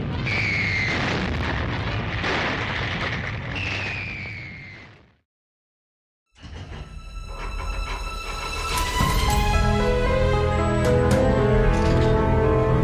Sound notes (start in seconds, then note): 0.0 bombs exploding; 0.8 missiles whistling; 6.2 metal clanking